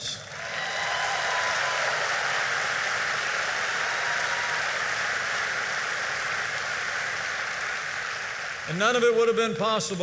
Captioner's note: applause